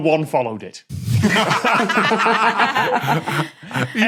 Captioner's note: group laughing